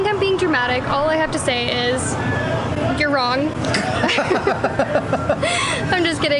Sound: laughter

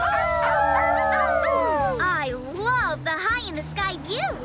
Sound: howling

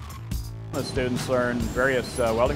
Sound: voiceover

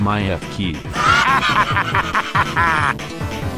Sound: laughter

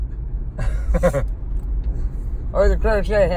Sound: laughs

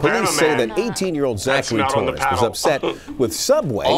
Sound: laughs

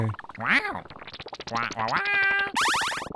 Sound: commanding squawk

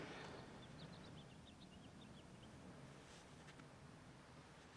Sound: birds twittering

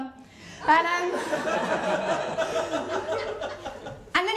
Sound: laughter

